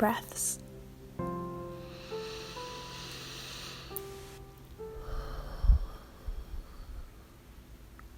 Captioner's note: deep breath